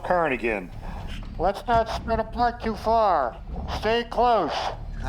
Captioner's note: radio transmission continues